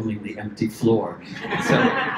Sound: laughter

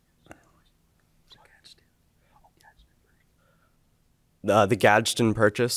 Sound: students whispering

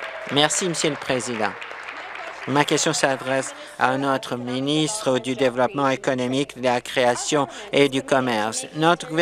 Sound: applause

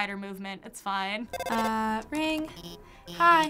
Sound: phone ringing

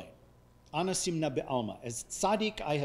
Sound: speaking foreign language

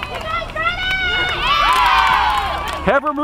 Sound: cheering

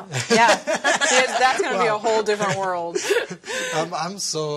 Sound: laughter

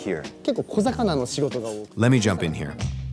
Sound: speaking in Japanese

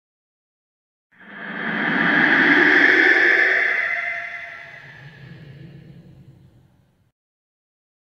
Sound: sound of creepy voice

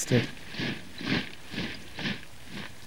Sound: sound of marching

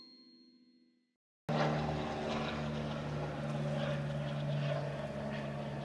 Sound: plane noise

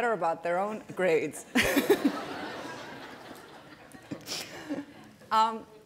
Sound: laughter

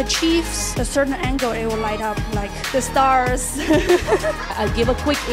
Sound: laughs

